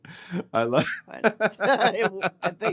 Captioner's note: both laughing